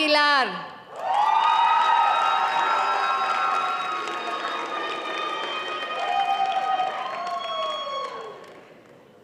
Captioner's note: audience cheering and applauding